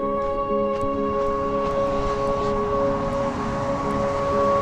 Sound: engines roaring

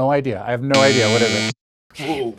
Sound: buzzer buzzes

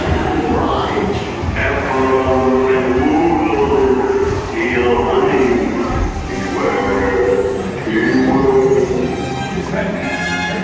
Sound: dream voice

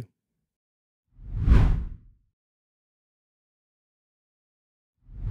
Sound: text whooshes

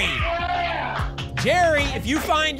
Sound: cheering

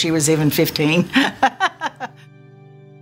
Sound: laughing

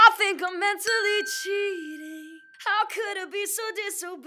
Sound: bell dinging

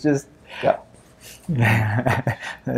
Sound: laughs

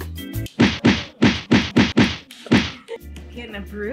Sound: slapping sound effects

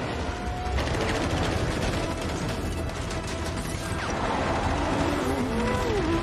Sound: minigun fires

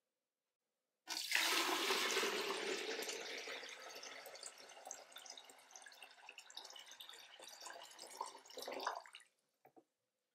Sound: pouring water sound

